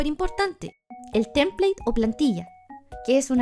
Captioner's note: Spanish